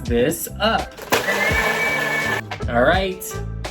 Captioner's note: blender whirs